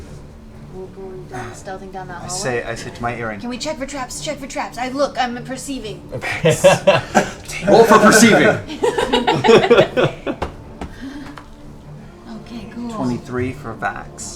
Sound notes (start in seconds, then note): 6.1 laughs; 8.6 laughter